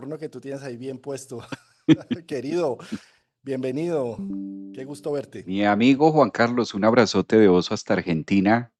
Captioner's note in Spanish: risas